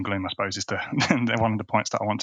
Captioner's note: chuckles